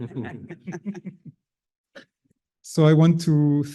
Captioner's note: panelists laughing